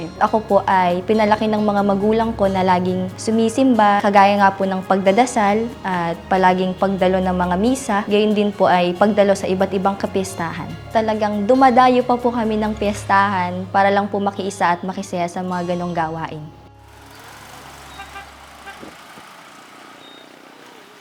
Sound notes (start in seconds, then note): 16.6 motorcycle engine whirring; 16.8 honk; 19.2 motorcycle engine whirring